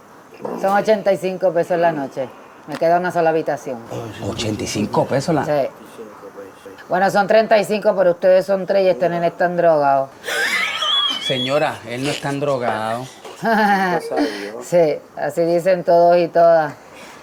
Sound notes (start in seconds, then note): 10.1 laugh; 13.4 sarcastic laugh